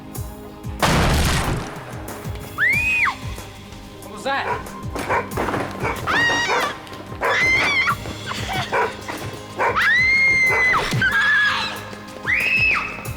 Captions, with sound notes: (door crashing) (screaming) - What was that? (screaming) (dog barking)